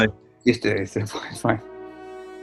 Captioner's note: mutters